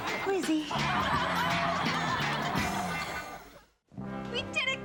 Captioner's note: audience laughs